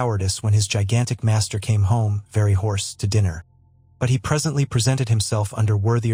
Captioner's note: very hoarse